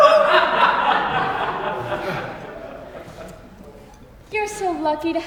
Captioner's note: audience laughs